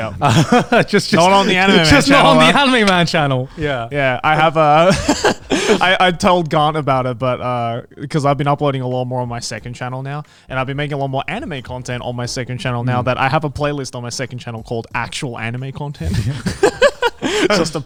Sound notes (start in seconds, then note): 0.0 laughs; 16.0 group laughs